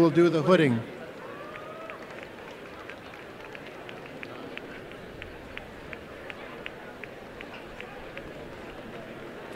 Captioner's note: applause